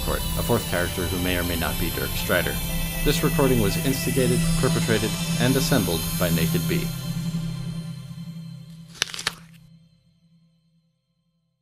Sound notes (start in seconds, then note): 8.7 crunch